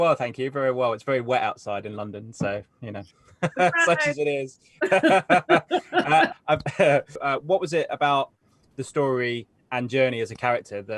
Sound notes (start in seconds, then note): 3.4 laughs; 4.8 Anika laughs; 4.8 laughs